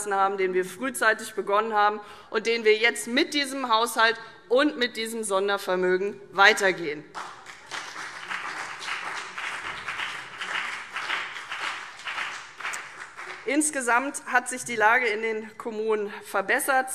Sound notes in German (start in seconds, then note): 7.1 Beifall CDU und BÜNDNIS 90/DIE GRÜNEN